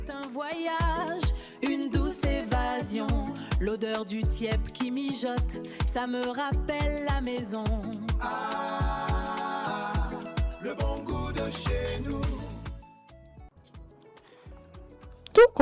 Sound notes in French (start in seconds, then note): 2.7 chant